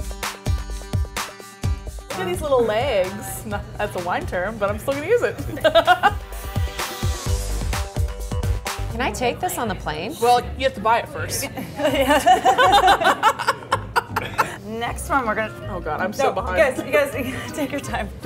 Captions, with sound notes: (upbeat music) - Look at these little legs. That's a wine term but I'm still gonna use it. (laughing) (upbeat music) - Can I take this on the plane? - Well, you have to buy it first. - Yeah. (laughing) Next one, we're gonna-- - Oh God, I'm so behind. - No, you guys, take your time.